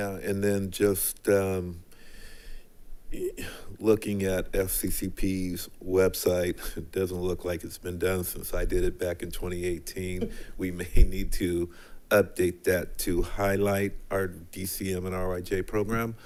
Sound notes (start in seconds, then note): 10.0 laughing